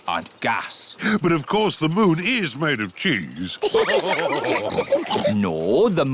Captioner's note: all laugh